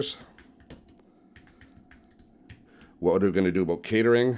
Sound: keyboard clacking

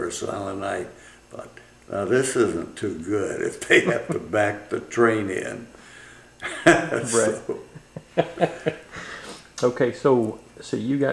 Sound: laughter

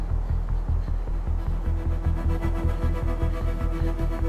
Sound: Googly breathing heavily

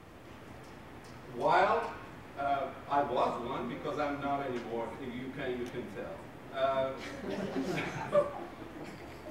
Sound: laughing

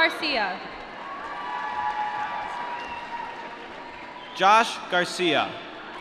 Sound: applause

